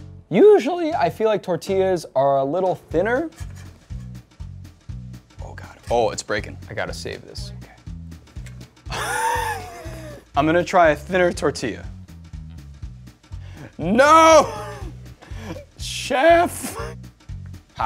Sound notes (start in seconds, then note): 8.9 laughs